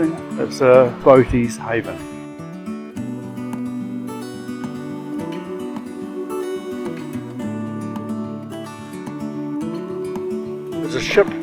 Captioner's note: cicadas singing